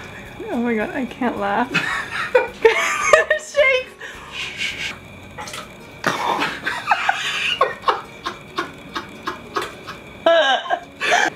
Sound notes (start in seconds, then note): 3.3 laughing